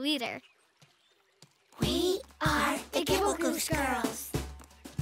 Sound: hushed

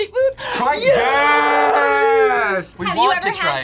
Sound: gasps

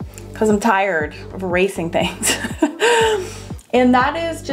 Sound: laughs

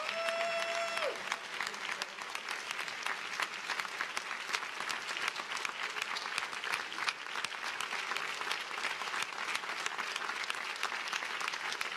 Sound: applause

